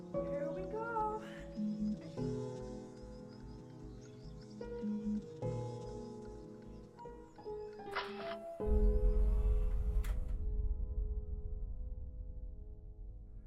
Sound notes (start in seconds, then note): 7.6 camera clicks